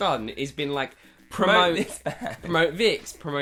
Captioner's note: laughs